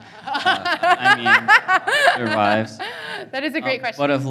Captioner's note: laughing